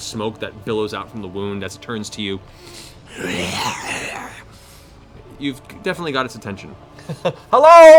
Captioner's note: snarling